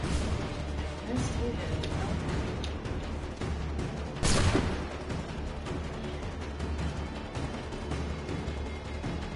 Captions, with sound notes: let's do this. [GUNSHOTS]